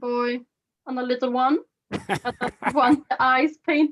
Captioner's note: laughs